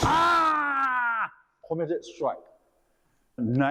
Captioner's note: Kiai